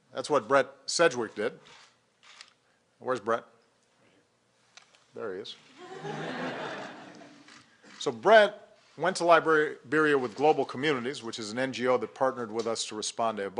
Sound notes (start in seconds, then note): 5.7 laughter